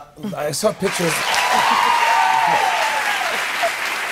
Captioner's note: cheers and applause